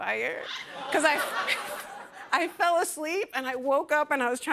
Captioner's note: laughter